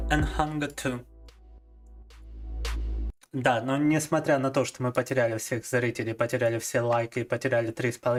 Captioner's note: speaking in foreign language